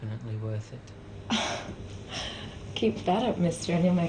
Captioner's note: chuckles